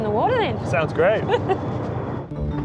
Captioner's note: laughs